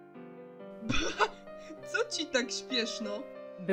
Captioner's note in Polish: lekkie wybuchniecie śmiechem